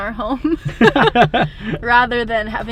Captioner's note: laughs